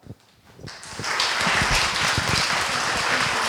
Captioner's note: applause